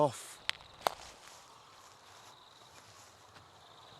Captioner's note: twig snapping